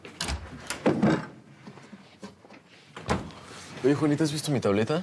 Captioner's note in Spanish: ruido en la puerta